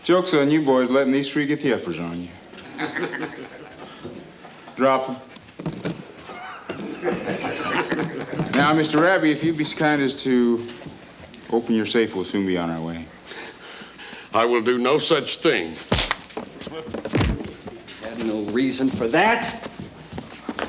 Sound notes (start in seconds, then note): 2.5 gang members chuckle; 6.3 gang members chuckle; 15.8 body thumps; 15.8 fist thuds